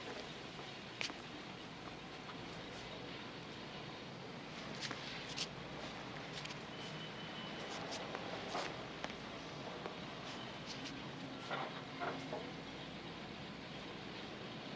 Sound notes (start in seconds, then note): none